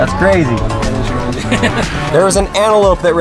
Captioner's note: laughs